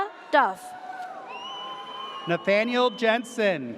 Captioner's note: audience cheers